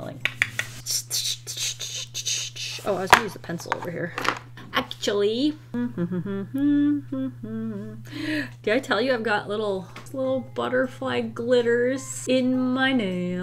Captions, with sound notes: [important redrawing noises] Oh, Iwas gonna use a pencil over here... actually. [Humming] Did I tell you I've got little, little butterfly glitters in my nail?